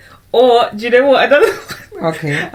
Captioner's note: laughs